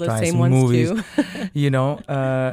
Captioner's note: laughter